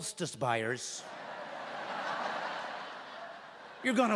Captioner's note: laughing